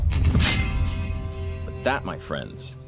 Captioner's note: machete scrapes